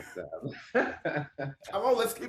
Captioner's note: laughter